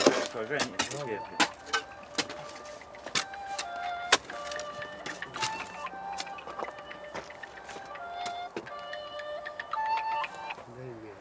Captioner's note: ringtone